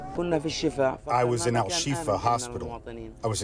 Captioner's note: through translator